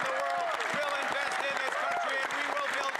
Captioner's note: cheers & Applause